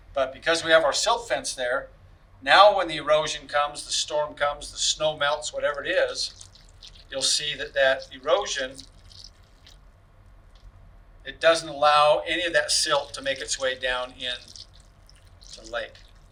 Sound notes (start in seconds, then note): 4.8 water burbling; 12.4 burbling water